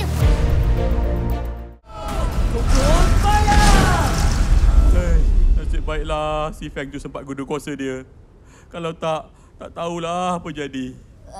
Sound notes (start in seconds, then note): 5.0 heavy sigh